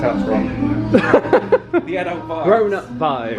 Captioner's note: laughs